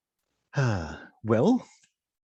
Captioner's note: sigh